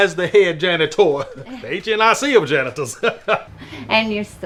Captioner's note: laughs heartily